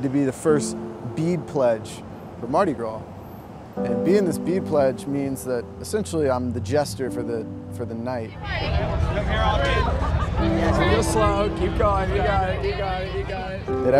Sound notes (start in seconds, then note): 8.1 crowd murmuring